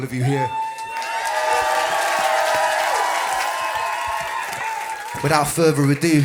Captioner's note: cheers and applause